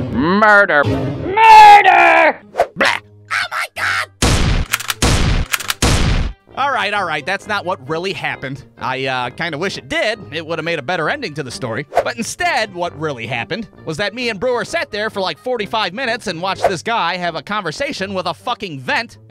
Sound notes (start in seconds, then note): 2.5 blarp!; 4.2 shooting uncontrollably